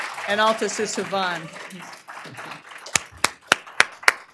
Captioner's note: applause